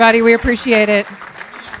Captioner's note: applause